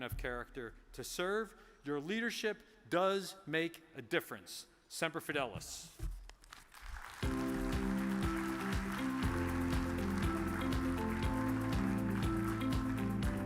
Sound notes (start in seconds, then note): 6.6 audience applause; 7.2 uplifting music